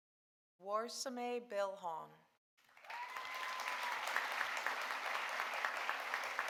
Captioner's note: audience applauding